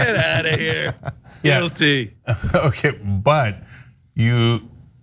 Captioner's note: laugh